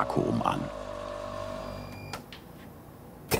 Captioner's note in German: Dröhnende Mixgeräusche